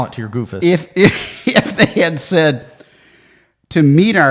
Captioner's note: laughing